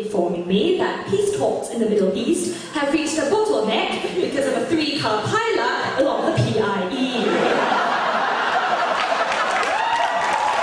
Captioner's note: fake BBC accent; audience laughter and cheers